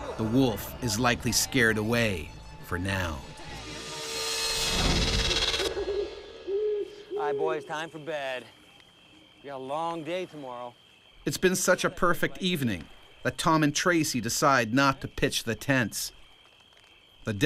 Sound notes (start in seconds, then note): 4.7 owl hooting; 11.4 voiceover